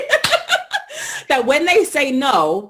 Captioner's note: laughter